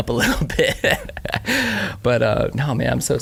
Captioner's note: laughing